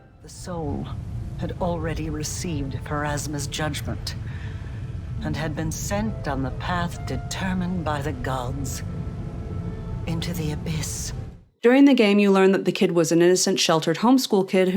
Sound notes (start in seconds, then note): 4.2 shaky, long breath